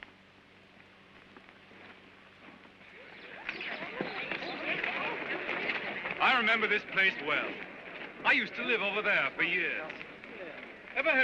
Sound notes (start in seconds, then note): 2.8 birds chirping & children chattering